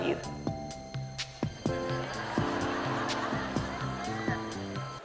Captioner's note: laughter